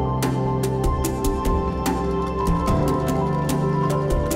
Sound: none

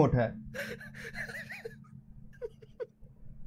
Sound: chuckles

